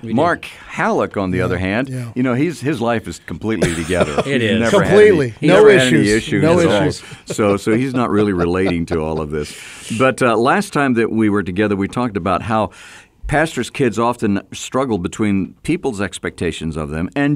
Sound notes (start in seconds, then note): 3.6 co-hosts laugh